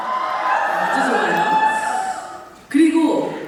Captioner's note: shouts